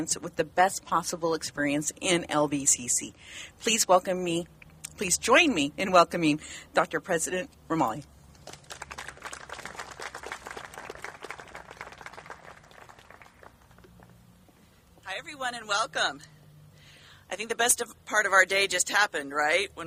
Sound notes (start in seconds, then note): 8.4 applauding